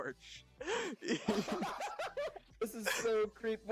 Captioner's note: laughing